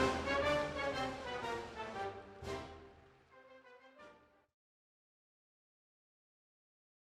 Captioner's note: applause